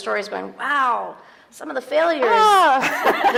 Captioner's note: laughing